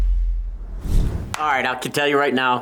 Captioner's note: logo whooshes